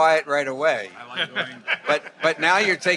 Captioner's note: attendees laughing